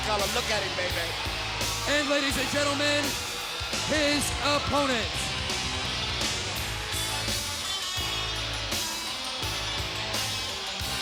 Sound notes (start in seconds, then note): 5.4 crowd cheering; 5.4 rock music